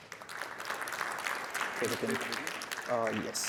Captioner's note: applause